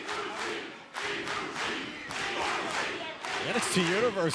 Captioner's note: fans chanting